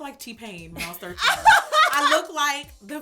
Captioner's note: laughter